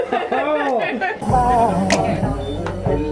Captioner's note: laughs; club chill-out music